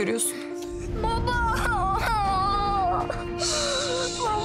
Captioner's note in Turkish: Ağlıyor